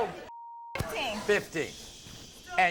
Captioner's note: beep